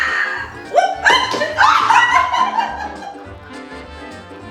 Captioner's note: all laughing